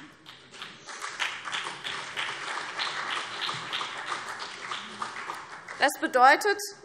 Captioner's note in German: Beifall CDU und BÜNDNIS 90/DIE GRÜNEN